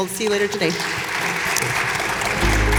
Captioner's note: audience applauding; soft upbeat music